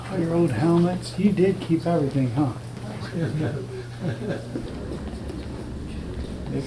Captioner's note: Richard laughing